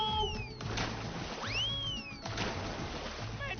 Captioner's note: splash